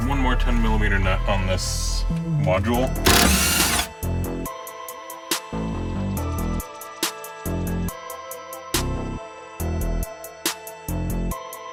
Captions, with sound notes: There's one more 10 millimeter nut on this module. (drill torquing) (restrained electronic music)